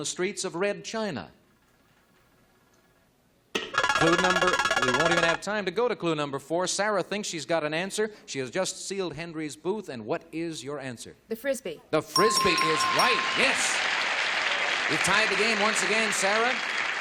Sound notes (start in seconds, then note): 4.7 buzzer